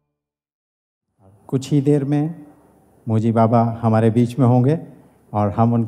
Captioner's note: spricht auf Hindi